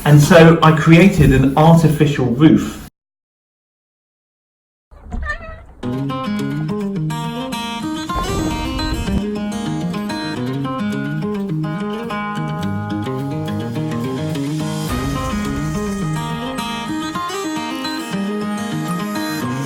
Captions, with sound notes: And so, I created an artificial roof. (cat meows) (lighthearted music)